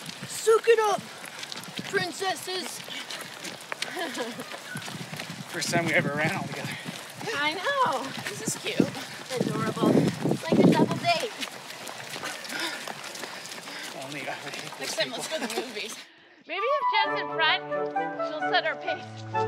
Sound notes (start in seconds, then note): 0.0 heavy breathing and panting; 3.0 footsteps crunching on gravel; 11.7 heavy breathing and panting